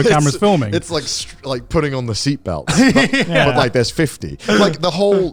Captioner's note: laughs